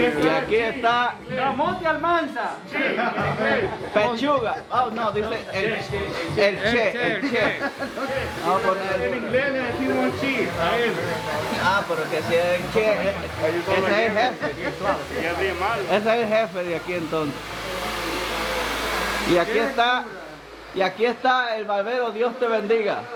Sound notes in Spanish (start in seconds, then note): 17.4 sonidos de máquinas